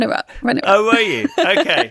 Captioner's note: laughs